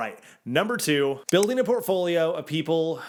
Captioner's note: graphics click